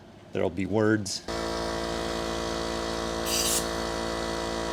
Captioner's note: compressor noises